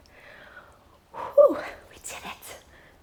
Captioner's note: sighs